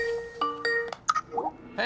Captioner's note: upbeat music; cellphone ringing